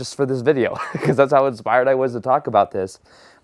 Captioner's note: laughing